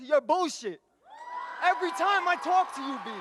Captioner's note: audience cheers and applauds